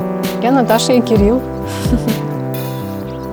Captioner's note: laughs